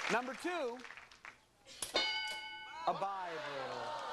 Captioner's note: bell dinging